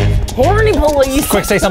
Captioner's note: beeps; sirens blaring